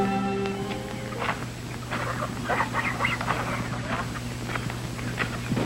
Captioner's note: chickens clucking